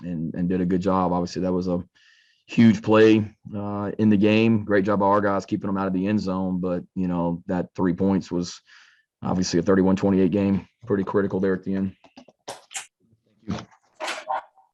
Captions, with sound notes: and did a good job. Obviously, that was a huge play in the game. Great job, our guys keeping them out of the end zone, but that three points was obviously a 31 28 game, pretty critical there at the end. (object clattering) Thank you.